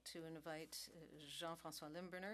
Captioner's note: speaking French